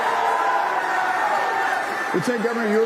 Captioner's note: applause